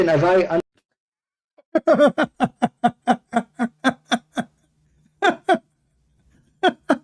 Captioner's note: Ketawa